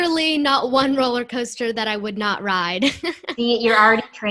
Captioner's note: laughter